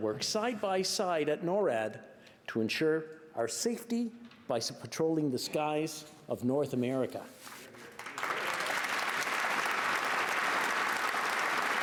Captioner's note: applause